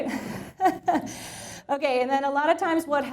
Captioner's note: chuckles